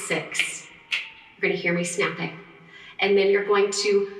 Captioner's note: snapping